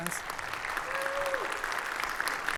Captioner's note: attendees applaud